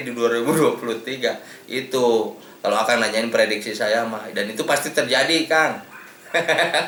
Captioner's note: laughs